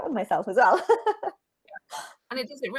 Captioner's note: chuckles